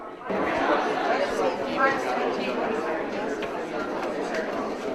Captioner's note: audience chattering